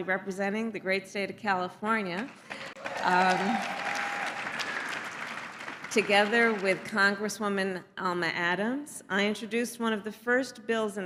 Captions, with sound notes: representing the great state of California -- (applause) -- together with Congresswoman Alma Adams, I introduced one of the first bills